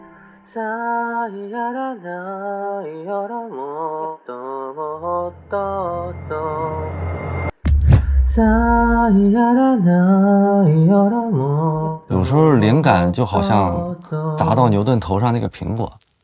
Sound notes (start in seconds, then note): 0.5 hums melody